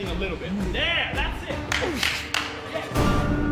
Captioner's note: claps; grunts